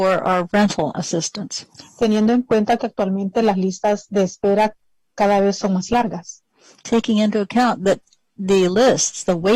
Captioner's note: speaking spanish